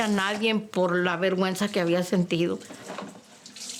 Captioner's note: speaking Spanish